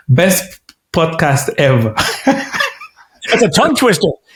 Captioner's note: laughs